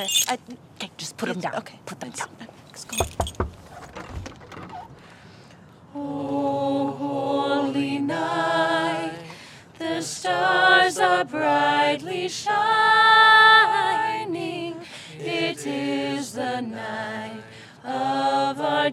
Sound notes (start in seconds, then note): 3.0 knocking on door